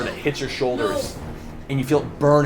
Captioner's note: gasps